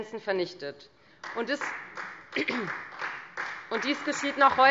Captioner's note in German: Beifall Freie Demokraten, vereinzelt CDU und BÜNDNIS 90/DIE GRÜNEN